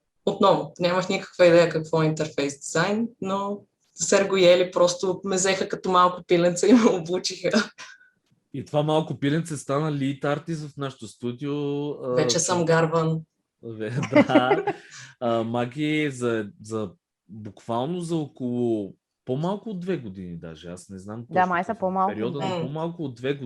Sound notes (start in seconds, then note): 13.8 all laugh